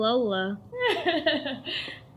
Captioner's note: laughs to herself